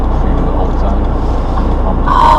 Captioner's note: faintly speaking